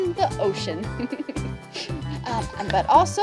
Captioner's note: laughs